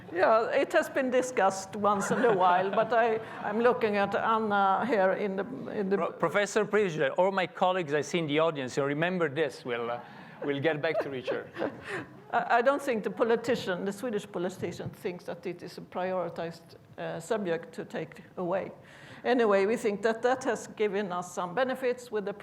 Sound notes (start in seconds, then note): 10.4 laughs